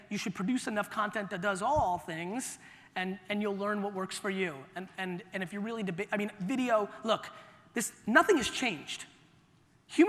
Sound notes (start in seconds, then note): none